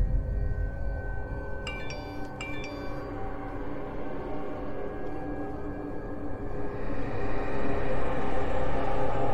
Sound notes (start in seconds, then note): 2.4 phone chime; 4.2 dramatic music